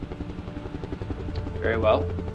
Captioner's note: helicopter flying